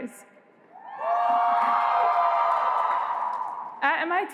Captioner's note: cheering